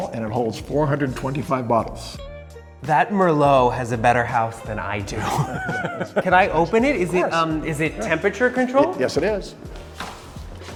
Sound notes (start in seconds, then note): 5.2 laughing